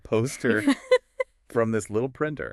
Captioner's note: laughs